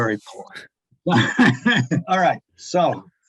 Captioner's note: laughs